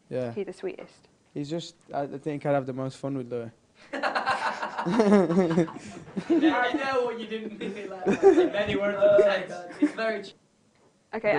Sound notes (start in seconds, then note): 4.0 laughs